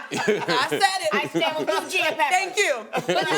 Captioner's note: laughing